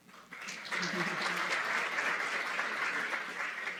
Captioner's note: applause